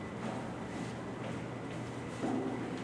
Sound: footsteps

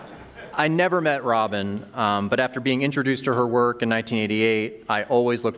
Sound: laughter

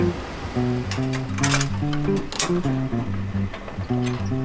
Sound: metal clanking

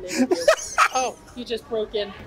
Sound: laughs

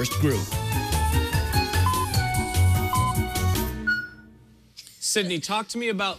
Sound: electronic beeping

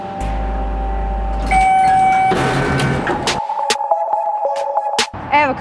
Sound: elevator beeps; upbeat music

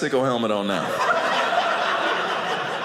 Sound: audience laughing

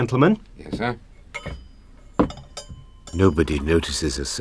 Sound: clink of glass and pouring wine

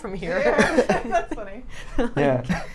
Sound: all laugh

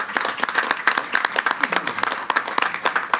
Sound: applause

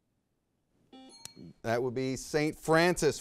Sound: bell rings

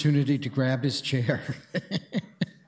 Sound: laughs

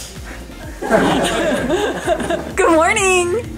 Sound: laughing

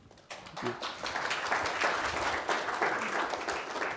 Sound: audience applauds

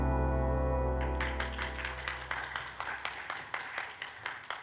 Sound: audience clapping

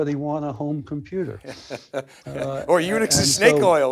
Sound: laughs

